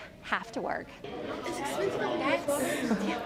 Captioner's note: crowd noise